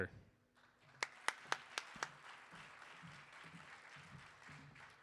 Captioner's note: audience applauding